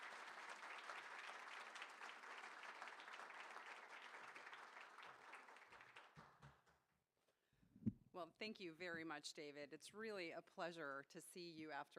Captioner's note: applause